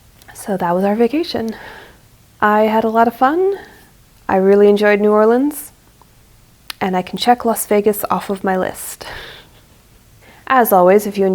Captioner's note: laughs